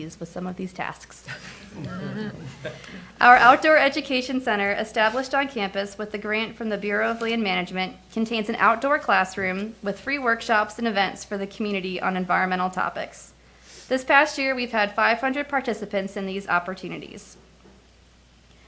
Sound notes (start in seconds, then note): 1.2 attendees laugh